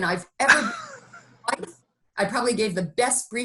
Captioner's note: laughing